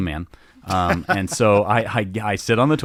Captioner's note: laughing amusingly